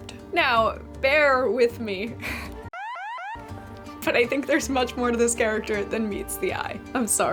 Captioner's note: alarm sounds